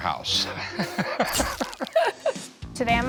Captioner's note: laughs